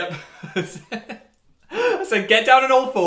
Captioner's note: laughter